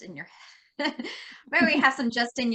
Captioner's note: laughing